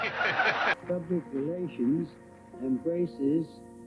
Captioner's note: laughing; clapping